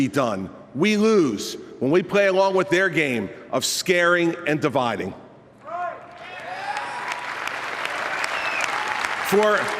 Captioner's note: applause